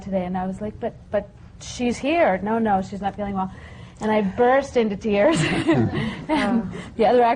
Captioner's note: laughter